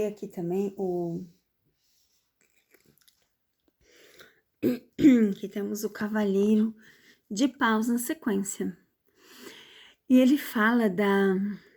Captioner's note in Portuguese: limpando a garganta